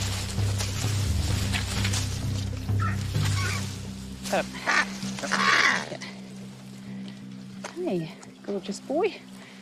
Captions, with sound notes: (kakapo squawking) Oh. Hey, gorgeous boy.